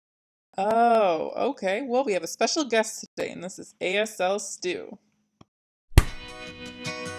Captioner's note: slap